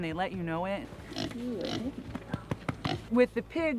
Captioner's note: grunting